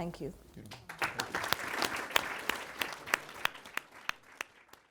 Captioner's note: audience applauds